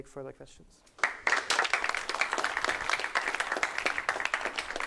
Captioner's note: applause